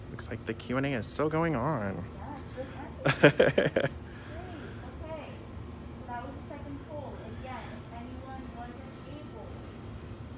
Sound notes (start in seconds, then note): 3.0 laughing